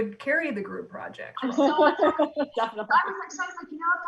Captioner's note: loud laughs